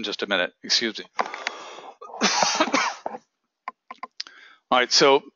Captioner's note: cough